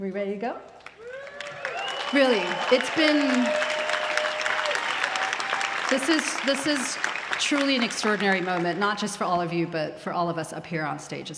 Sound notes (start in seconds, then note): 4.1 applause